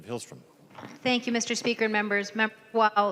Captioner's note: gavel